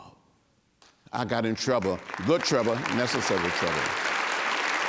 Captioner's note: applause